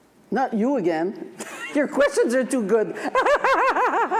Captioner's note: laughs